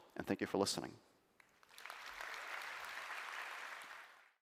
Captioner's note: applause